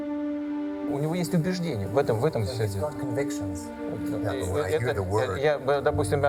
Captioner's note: speaking foreign language